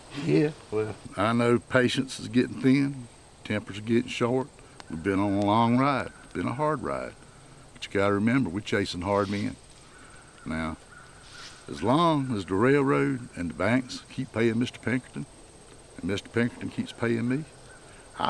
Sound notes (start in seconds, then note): none